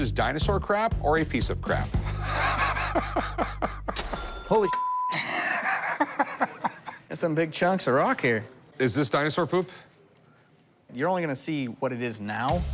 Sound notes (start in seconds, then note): 2.0 laughs; 3.9 cash register ring; 5.2 laughs